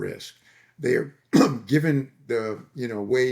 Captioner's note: coughing